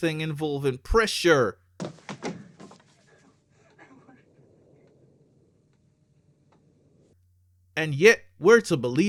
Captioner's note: Ridley sobbing in Ash dialogue